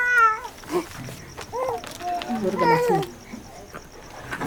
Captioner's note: baby crying